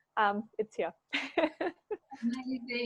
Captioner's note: laughs